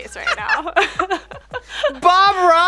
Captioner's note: laughs